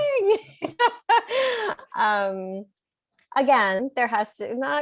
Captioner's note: laughs